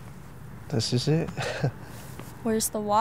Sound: laughs

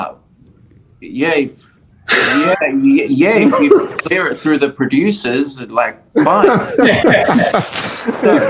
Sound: laughing

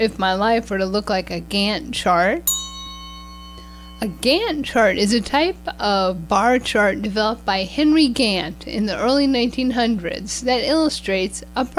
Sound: bell sound

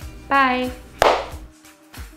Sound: clap

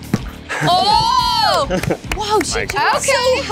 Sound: crowd cheers

